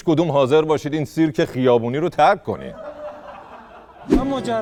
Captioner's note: laughter